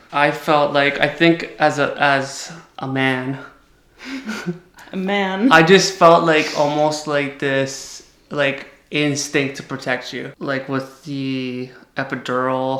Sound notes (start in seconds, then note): 4.0 giggles